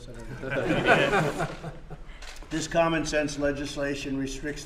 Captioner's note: laughter